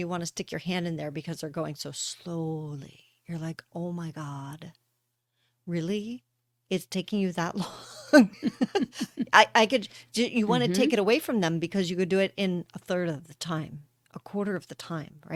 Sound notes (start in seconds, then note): 7.6 laughter